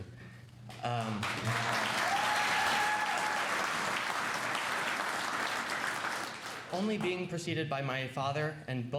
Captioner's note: cheers and applause